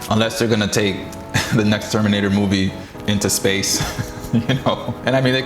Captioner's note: chuckles; chuckling